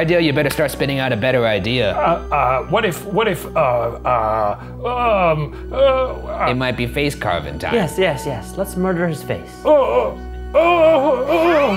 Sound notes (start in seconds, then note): 4.3 grunting; 9.6 groaning